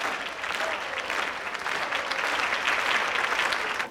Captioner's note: clapping rhythmically